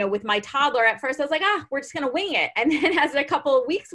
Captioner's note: laughs